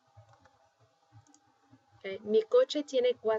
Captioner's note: speaking spanish